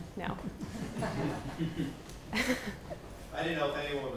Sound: people laughing

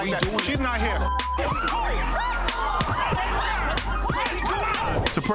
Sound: audience screaming

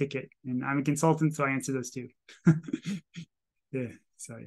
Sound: chuckles

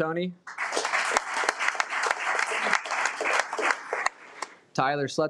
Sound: audience clapping

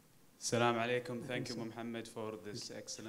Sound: speaking foreign language

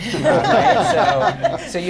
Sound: laughter

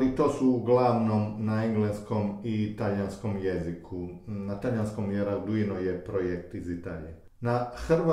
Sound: in Italian because Arduino is a project from Italy

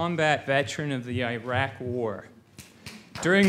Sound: applause

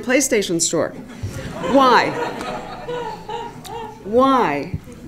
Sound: laugh

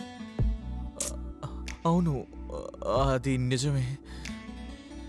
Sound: clicks tongue

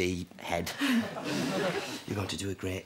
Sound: sighs

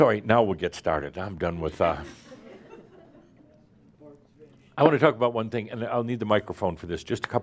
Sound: a few chuckles

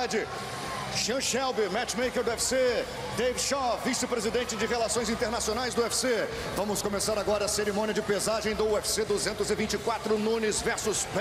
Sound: speaking foreign language

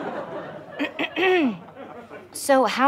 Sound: clears throat

